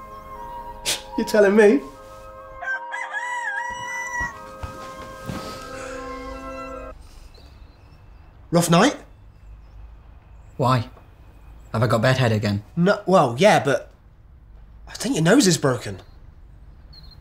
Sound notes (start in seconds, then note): 2.5 rooster crying; 4.0 peaceful music; 6.8 music stops abruptly